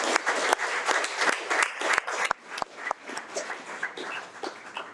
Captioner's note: audience applauding